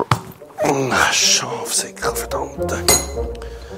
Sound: curses

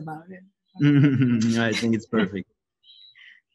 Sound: laughing

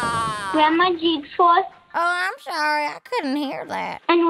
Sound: soundbite of thunder

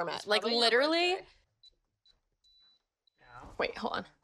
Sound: beeping

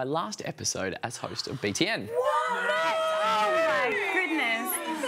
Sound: gasping and protesting

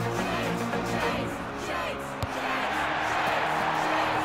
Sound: crowd chanting

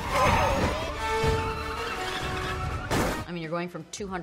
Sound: cars clashing together

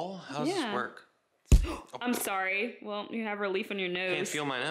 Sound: gasp

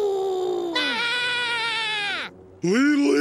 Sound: howls; screams weakly

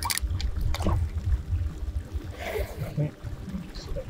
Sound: metal cracking; water bubbling

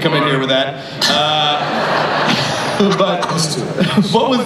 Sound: laughter

